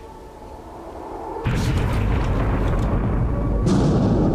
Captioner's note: explosion